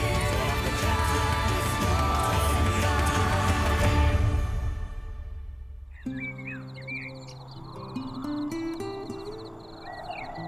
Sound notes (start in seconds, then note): 5.8 birds chirping